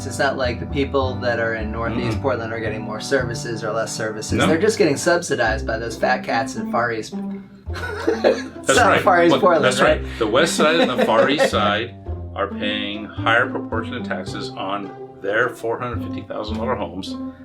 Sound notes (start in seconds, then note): 7.7 laughing